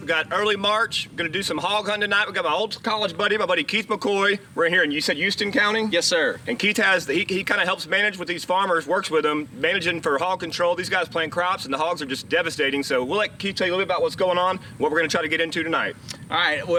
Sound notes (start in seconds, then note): none